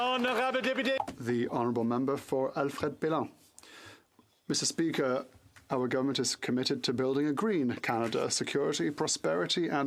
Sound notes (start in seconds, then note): 0.0 some Applause; 5.0 speaking French